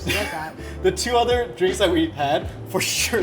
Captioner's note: chuckles